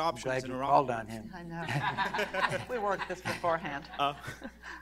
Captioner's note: laughter